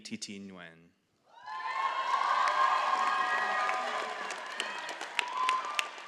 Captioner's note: all applauding and cheering